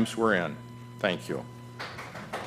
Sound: applause

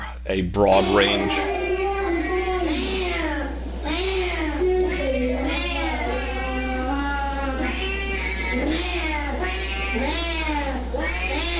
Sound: cats meowing in background

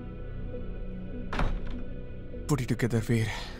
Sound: door closes

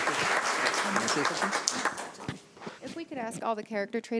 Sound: panel members chattering

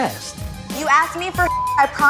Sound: beep sound

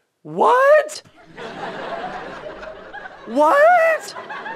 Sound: audience laughter

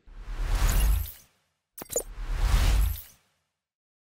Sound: logo whooshing

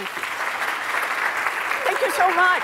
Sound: applause

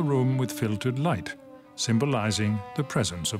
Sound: speaks French

